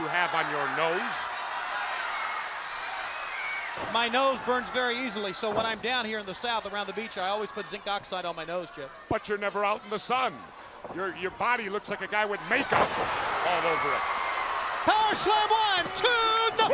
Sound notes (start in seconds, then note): 1.5 crowd cheering; 14.2 crowd cheering